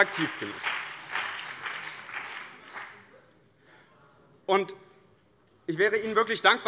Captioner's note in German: Beifall BÜNDNIS 90/DIE GRÜNEN und CDU